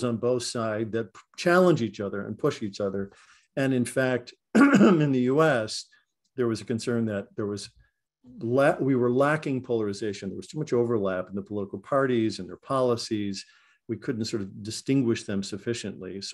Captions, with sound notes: on both sides that challenge each other and push each other. And in fact, [COUGH] in the US, there was a concern that there we were lacking polarization. There was too much overlap in the political parties and their policies, we couldn't distinguish them sufficiently.